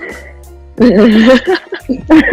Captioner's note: laughter